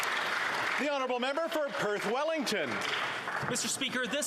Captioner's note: applause